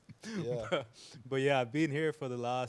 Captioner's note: laughing